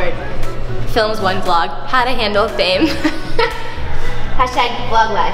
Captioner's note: laughs